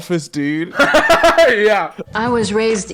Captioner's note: laughing